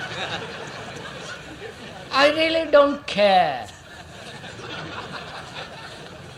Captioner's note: laughter